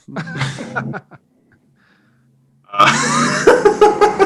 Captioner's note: hosts laughing